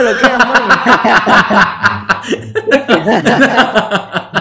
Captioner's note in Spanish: risas en Machu Picchu